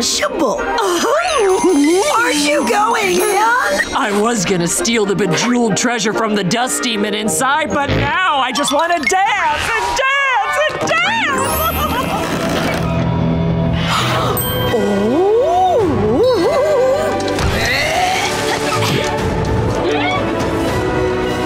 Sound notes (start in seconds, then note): 0.4 laughing; 10.7 laughing; 13.3 gasping, laughing; 17.4 grunting